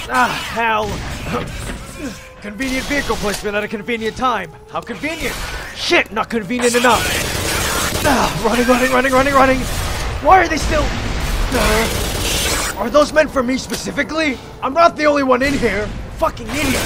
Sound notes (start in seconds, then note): 1.4 grunt; 8.0 pained yell; 9.5 explosion; 11.9 yells; 12.4 groan